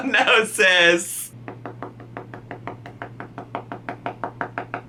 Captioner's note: fingers tapping